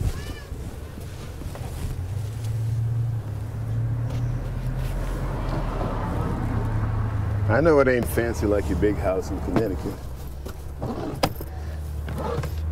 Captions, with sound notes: (traffic humming) I know it ain't fancy like your big house in Connecticut,